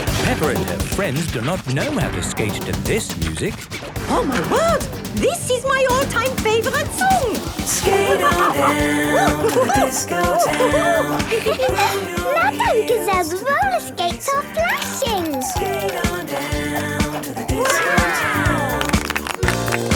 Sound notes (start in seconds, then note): 7.7 laughing and exclaiming